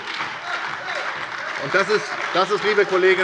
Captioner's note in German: Heiterkeit und Beifall bei der SPD